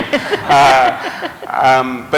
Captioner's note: laughter